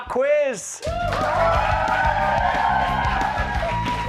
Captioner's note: cheers